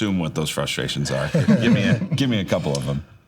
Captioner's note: laughing